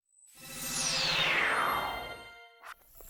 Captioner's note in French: bruit de téléportation